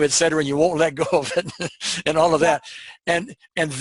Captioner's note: laughing